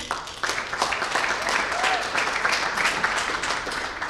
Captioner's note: applause